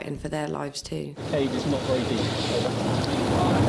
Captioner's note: boat engine revving